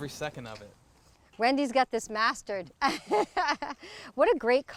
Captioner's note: laughs